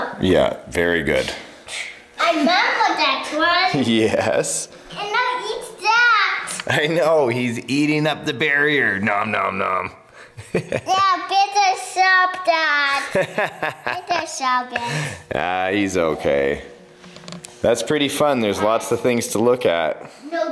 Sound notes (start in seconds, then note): 10.2 father laughs; 12.9 laughs